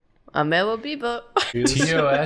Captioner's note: laughs